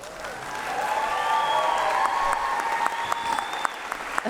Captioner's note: applause